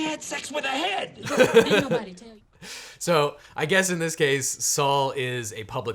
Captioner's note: laughs